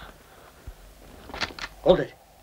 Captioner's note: gun clicks